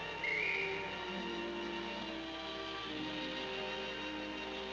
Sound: bird screeching

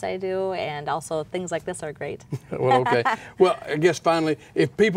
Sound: laughing

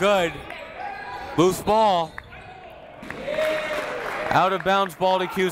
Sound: whistle

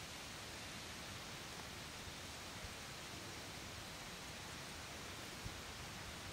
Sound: light breeze blowing leaves

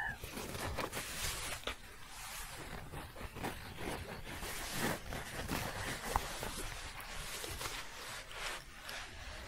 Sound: scratching and shuffling

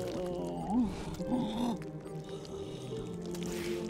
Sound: groaning

